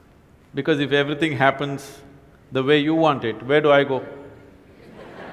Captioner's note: laughter and Applause